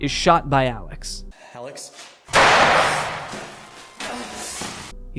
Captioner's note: gunshot; Jay gasps